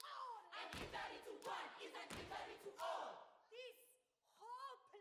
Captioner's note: chanting